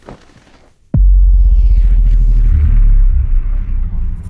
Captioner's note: low vibration